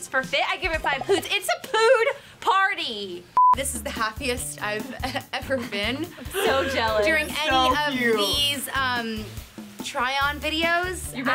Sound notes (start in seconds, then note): 5.5 laughing